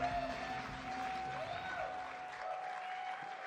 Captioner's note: applause, cheers